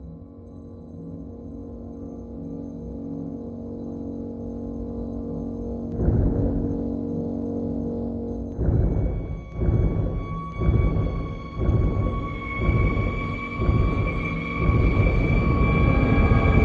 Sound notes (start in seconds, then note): 0.0 continuing ominous ambience; 6.0 foreboding sound of heartbeat increasing